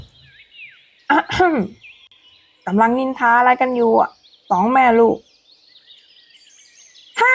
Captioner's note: clears throat